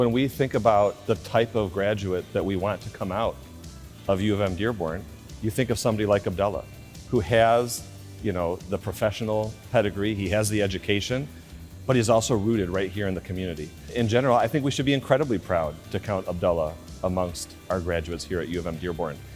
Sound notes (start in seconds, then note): none